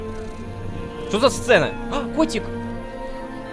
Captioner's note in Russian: Мяуканье